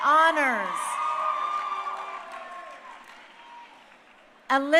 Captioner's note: crowd cheering